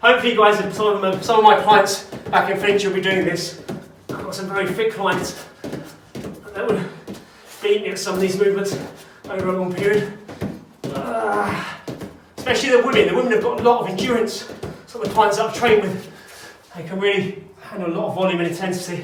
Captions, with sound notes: Hopefully you guys, and some of my clients back in Finchley will be doing this. I've got some very fit clients that would beat me at some of these movements over a long period. (grunts) Especially the women, the women have got a lot of endurance, some of the clients I've trained with they can really handle a lot of volume and intensity.